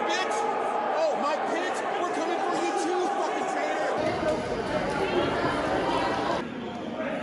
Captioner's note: crowd chants